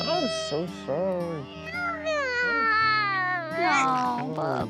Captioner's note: crying